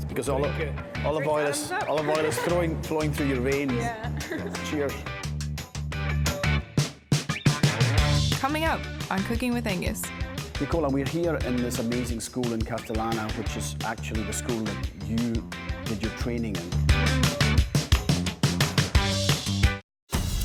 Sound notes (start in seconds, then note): 3.7 chuckling; 5.9 upbeat funky music; 18.7 upbeat funky music; 20.2 exciting drum music